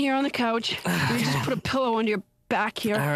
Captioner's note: sighs